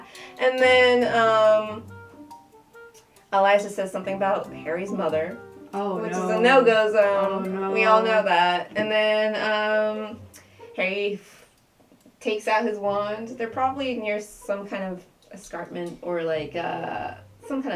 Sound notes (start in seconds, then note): none